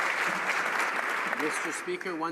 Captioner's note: some Applause